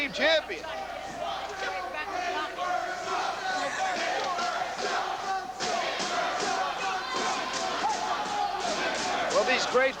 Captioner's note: crowd cheering